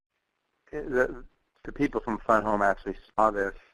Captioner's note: voiceover